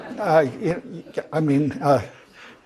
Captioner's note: laugh